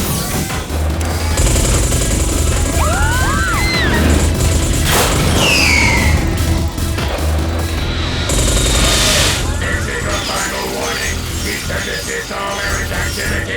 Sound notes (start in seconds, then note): 6.2 gunfire; 8.2 yelling